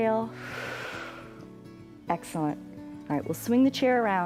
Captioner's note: exhales